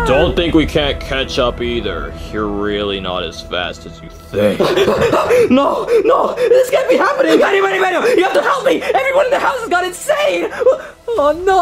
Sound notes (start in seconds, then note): 4.7 panting